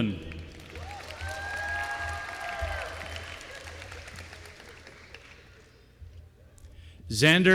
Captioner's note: applause